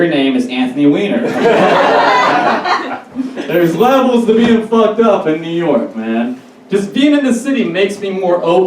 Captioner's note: audience Laughs